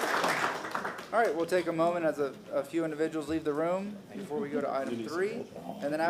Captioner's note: applause